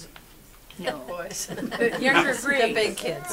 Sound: audience laughs

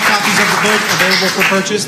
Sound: applause

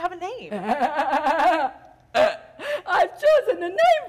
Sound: Sharik loudly laughs

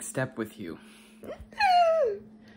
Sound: excited

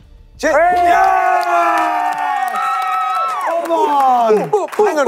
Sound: contestants cheering

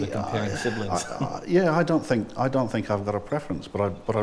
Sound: laughing

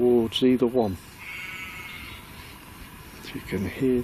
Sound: sheep bleats

